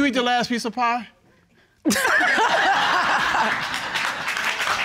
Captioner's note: laughter